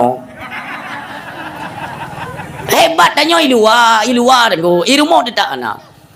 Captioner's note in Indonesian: tertawa